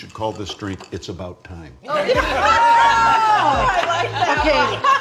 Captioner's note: all laughing